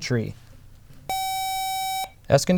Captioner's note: buzzer